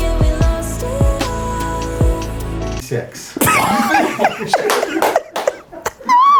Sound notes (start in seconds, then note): 3.4 laughter